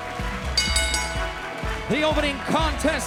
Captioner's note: dramatic music; bell rings